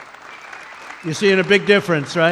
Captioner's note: applause